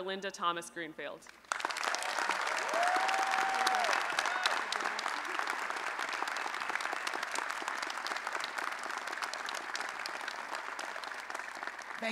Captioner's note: applause and Cheering